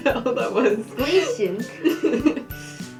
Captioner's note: laughing; weird voice